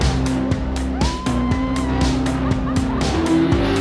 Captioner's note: screams